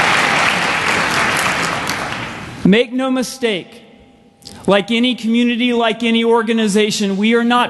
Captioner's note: applause